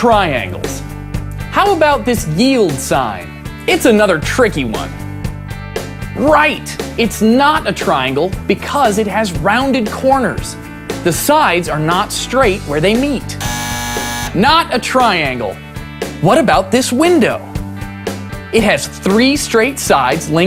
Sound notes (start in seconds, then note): 13.4 buzzer